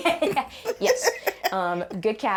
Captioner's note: laughing